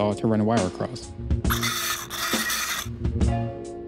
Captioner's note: sawing sounds